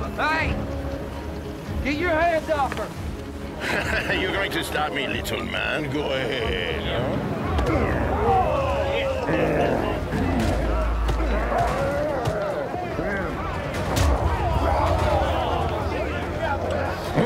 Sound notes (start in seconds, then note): 3.7 french accent; 9.4 joseph grumbles; 10.5 hitting; 13.5 punching